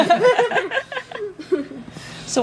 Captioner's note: laughter